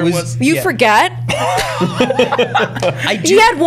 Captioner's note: laughter